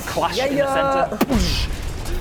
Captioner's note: boosh!